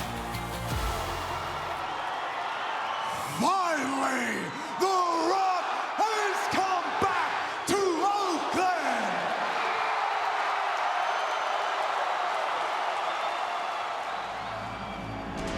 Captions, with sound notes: (crowd murmuring) Finally, The Rock has come back to Oakland. (crowd cheering)